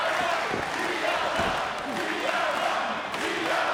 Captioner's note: crowd chanting